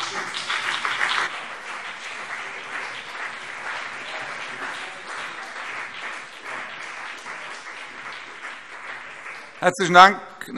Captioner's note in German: Beifall BÜNDNIS 90/DIE GRÜNEN